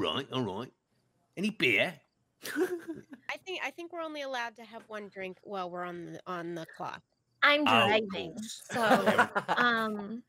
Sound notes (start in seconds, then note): 2.4 laughs